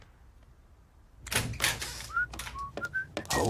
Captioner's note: whistling